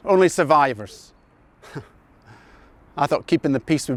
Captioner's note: chuckles